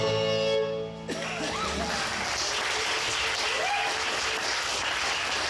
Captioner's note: audience cheers